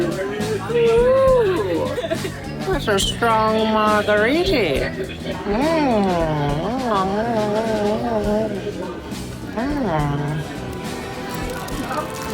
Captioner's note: tounge noises